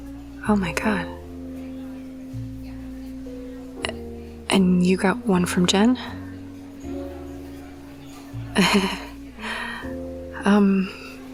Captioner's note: laugh